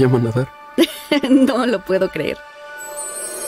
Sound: laughs

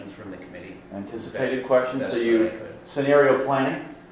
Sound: voiceover

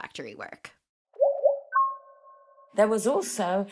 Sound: device chiming

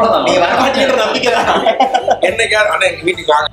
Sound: laughs

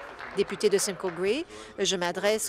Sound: applause

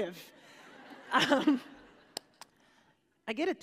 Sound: laughter

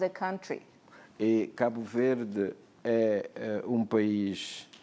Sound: speaking portuguese

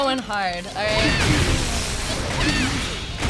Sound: Pikachu squeaks

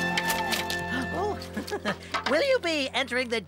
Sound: gasps

